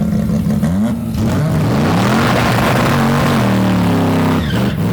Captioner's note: engine roaring